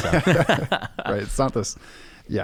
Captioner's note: laughing